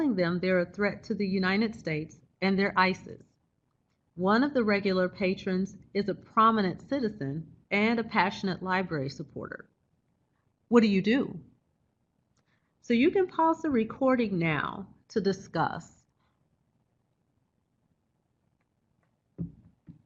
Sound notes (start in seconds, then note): 16.0 silence